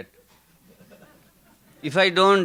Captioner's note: audience laughing